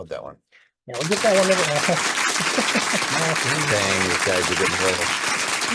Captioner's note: audience loudly applauds